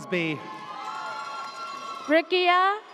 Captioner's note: audience cheers